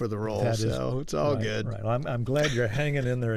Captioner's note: laughter